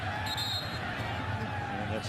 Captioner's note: whistle